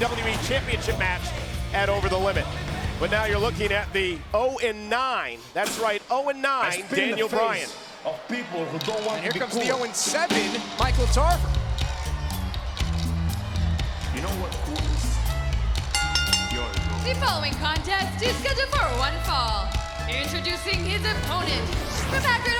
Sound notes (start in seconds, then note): 15.9 bell ringing